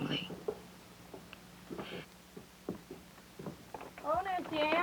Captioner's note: footsteps, door opening